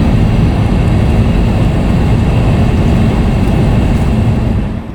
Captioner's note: car engine humming